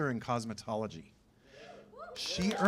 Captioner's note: cheers and applause